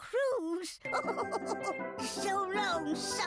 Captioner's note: laughing